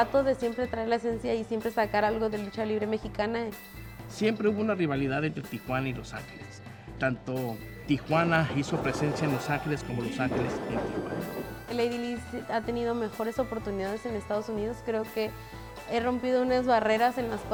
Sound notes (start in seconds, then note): 4.2 speaking Spanish